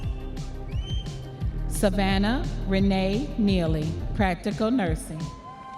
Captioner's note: audience members cheering and whistling